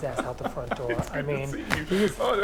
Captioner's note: laughs